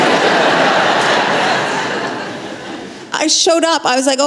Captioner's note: laughter